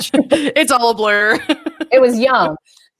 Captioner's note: laughs